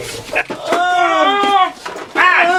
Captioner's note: monster grunts